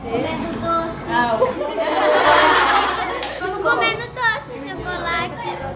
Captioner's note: laughs